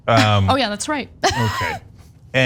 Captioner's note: laugh